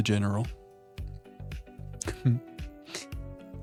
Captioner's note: chuckles